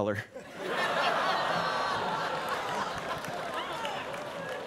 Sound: students laughing

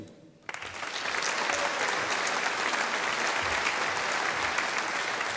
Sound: audience applauding

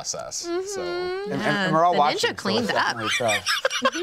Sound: laughs

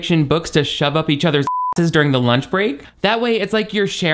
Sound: beep

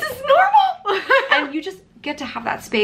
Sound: laughing

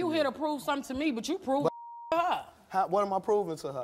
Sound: beeping

